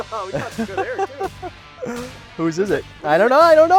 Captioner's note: laughs